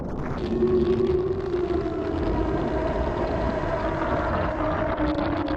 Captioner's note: distorted, calling wail, again and again